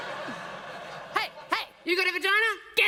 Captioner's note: laughter